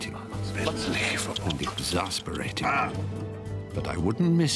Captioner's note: Stephen groans